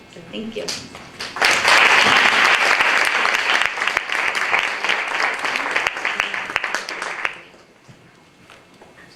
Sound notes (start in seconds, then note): 1.2 applause